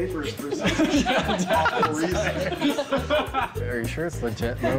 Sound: laughter

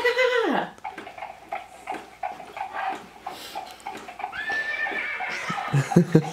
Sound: horse clopping and neighing

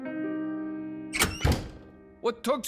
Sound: door slams

